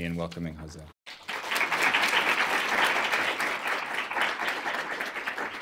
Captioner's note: applause